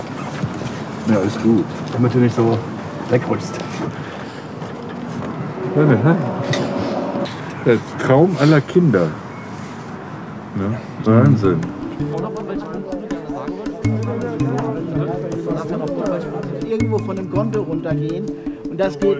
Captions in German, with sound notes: Ja, ist gut. - Damit du nicht wegrutschst. Der Traum aller Kinder. Wahnsinn. (Ruhige, abwartende Musik) (Aufgeregte Gespräch)